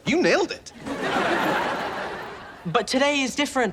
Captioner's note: audience laughs